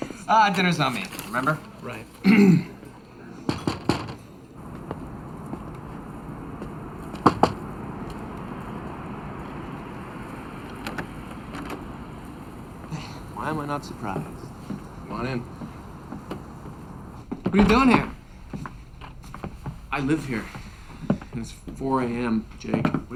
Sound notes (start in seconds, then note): 0.0 laughs; 3.5 door knocking